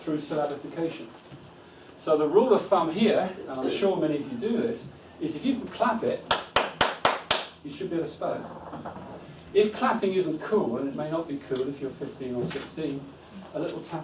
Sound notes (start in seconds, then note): 6.3 claps